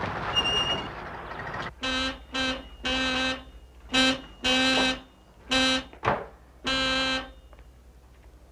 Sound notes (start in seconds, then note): 0.2 brakes screeching; 1.7 horn honking